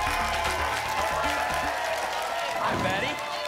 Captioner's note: applause and cheering cont